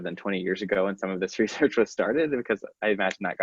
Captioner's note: laughing